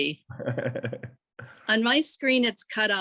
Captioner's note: laughing